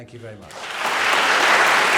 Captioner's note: applause